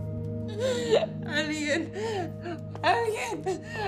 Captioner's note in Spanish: Sollozos